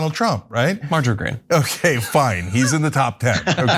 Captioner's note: laugh